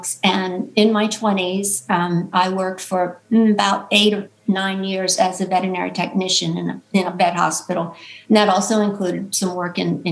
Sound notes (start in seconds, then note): none